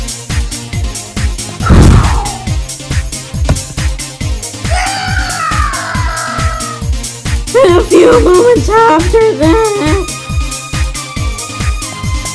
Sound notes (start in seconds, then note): 0.9 heavy breathing; 3.4 slap